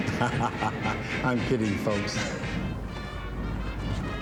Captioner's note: laughs